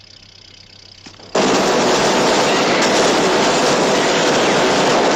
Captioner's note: motor running; gunfire and screaming